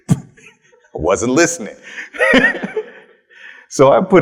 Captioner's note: chuckles